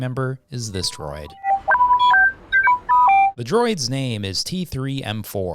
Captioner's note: Dialogue: T3 beeps